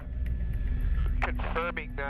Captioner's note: voiceover